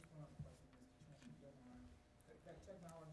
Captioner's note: lady in green talking low